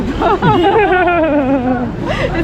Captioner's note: laugh